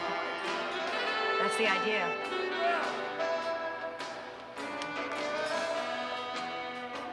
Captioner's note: shouting